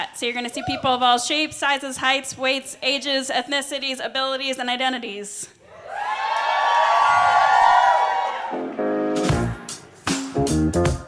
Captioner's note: cheering, applause